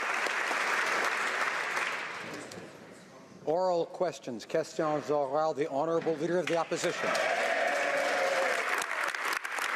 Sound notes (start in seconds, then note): 0.0 applause; 7.6 speaking French